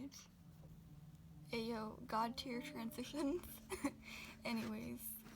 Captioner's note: laughs